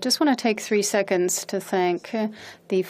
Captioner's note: speaking in French